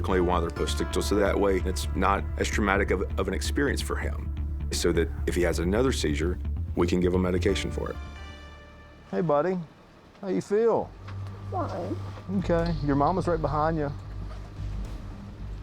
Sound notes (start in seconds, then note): none